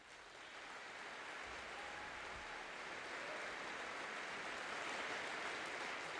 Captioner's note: audience applauding and cheering